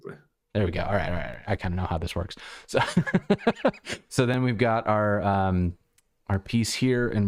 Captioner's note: laughter